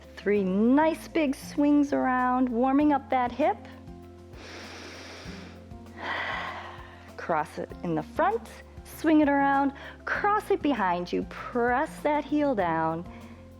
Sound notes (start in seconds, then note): 4.3 inhales and exhales